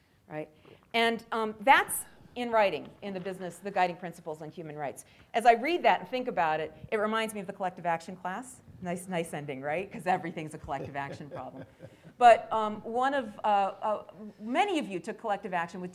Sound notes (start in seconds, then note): 11.8 chuckling